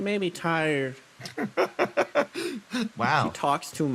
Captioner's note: laugh